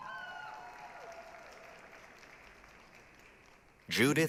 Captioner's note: applause, cheering